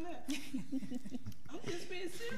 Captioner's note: laughing